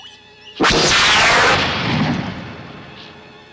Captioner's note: zapping